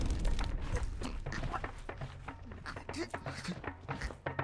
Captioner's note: prisoner choking